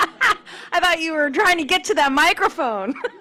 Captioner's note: laughter